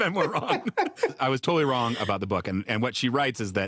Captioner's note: laugh